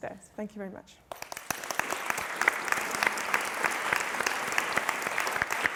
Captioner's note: applause